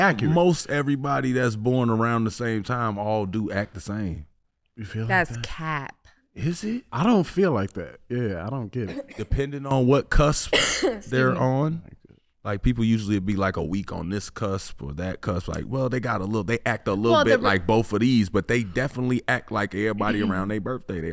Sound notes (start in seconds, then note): 10.4 coughing